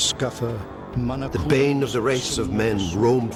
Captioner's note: man speaking Old English